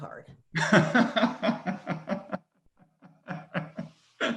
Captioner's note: laughing